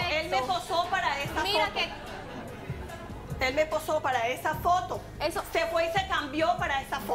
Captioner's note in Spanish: Risas